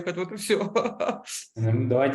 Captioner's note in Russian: смеется